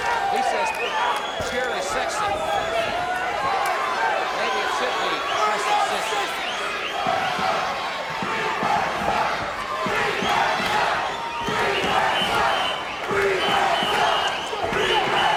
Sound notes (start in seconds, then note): 4.2 audience chanting